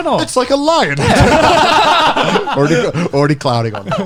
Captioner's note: laughs